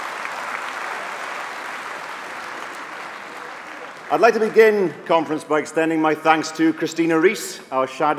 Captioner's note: applause